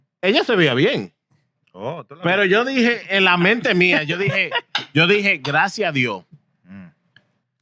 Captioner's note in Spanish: Hablando en idioma extranjero